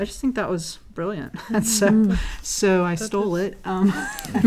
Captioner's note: laugh